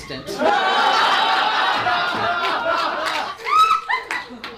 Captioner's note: audience laughs